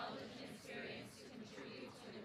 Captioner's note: none